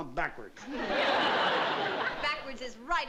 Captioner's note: laughter